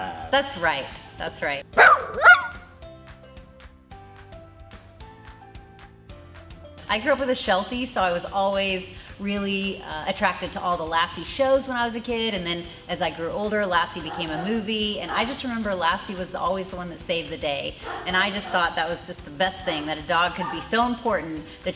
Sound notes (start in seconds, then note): 1.7 dog barks; 3.7 upbeat music